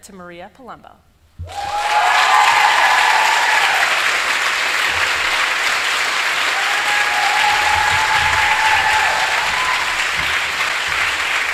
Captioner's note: applause